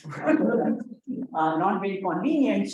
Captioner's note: audience laughs